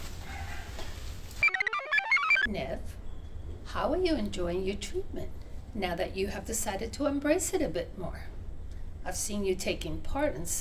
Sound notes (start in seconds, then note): 1.4 computer chirps